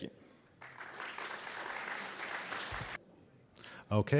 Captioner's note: applause